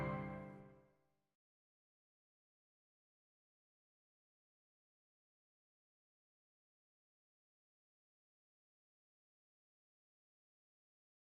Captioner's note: silence